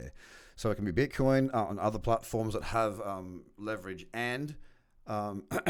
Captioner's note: clears throat